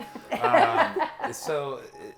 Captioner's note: group laughing